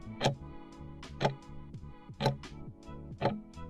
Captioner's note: timer ticking